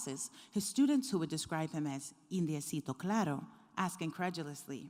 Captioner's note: speaks foreign language